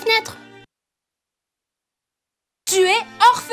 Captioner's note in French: Silence; Musique triste